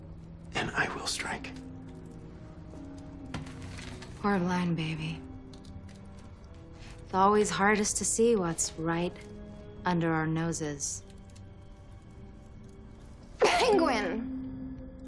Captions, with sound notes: and I will strike. We're blind, baby. Always hardest to see what's right under our noses. (COUGHING) Penguin.